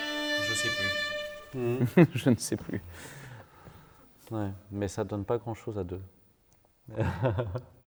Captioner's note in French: rires